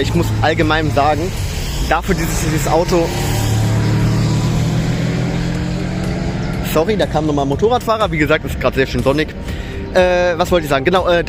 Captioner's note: motorcycles again